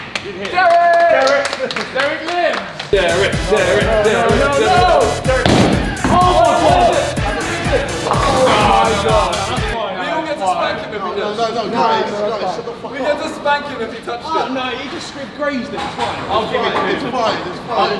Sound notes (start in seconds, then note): 0.0 lads applauding; 7.0 lads shouting